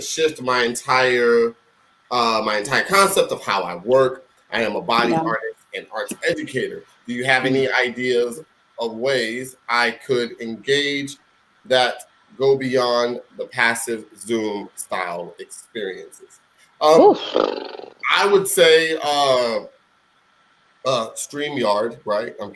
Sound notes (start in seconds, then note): 16.9 blubbering